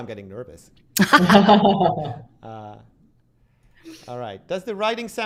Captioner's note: laughter